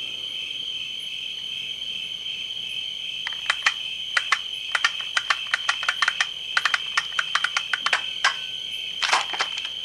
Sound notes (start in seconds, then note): 4.2 click; 4.7 click, click, click